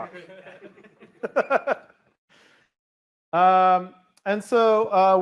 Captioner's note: laughter